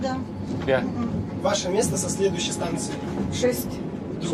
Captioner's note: speaks in Russian